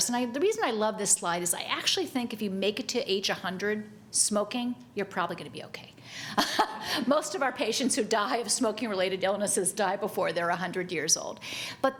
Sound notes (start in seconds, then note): 6.4 chuckles